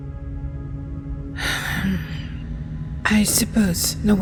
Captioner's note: sigh